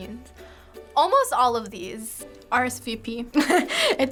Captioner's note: chuckles